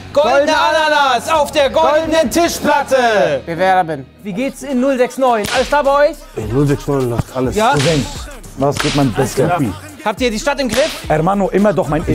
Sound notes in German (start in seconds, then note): 7.1 Schlaggeräusch